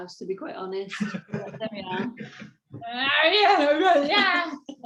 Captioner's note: laughs